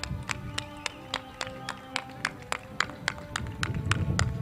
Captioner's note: crowd claps